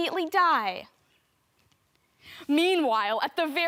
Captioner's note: soft breathing